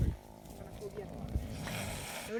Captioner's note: caracals hissing